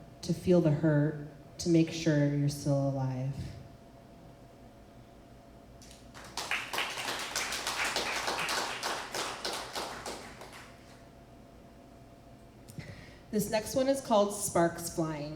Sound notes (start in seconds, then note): 5.8 applause